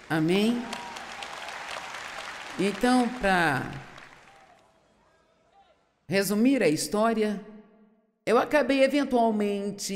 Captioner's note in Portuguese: audiência aplaude